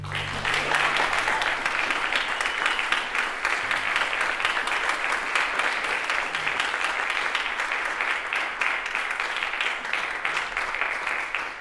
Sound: applause

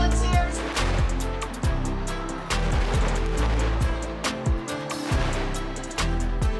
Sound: fireworks

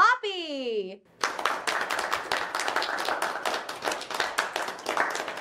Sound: audience applauding

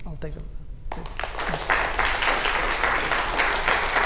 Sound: applause

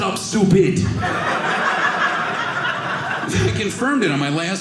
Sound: audience laughing

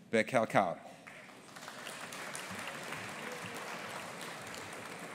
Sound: audience applauding

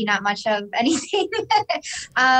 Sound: laughs

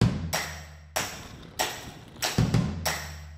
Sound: upbeat music; wheels clacking on pavement

